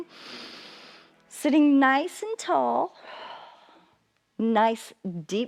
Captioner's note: inhales; exhales